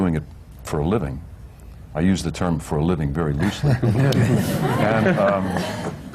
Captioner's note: laughter